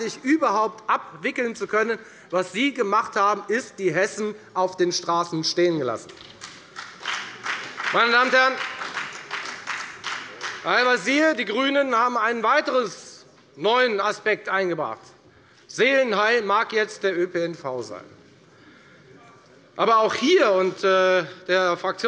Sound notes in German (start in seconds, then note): 6.2 Beifall bei der FDP